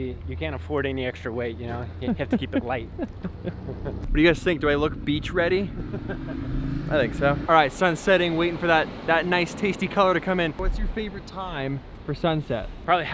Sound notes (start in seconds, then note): 1.7 laughing; 5.6 laughing